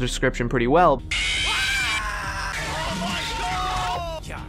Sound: compilation of screaming

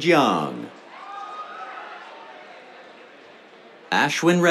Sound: cheers

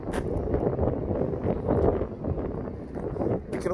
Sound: wind blowing

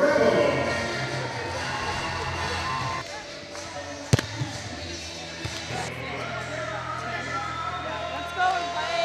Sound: gym noise

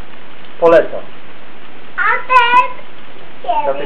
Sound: talking to himself

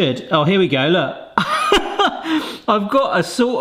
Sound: laughs

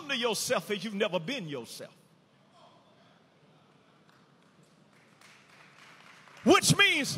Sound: audience applauding

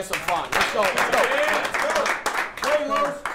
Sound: clapping

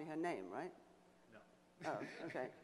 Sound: voiceover

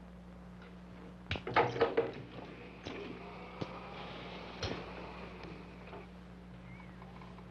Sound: table banging; wheelchair engine whirring

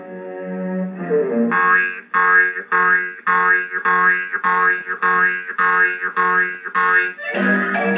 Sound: boing Boing Boing

